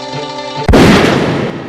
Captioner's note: gunshot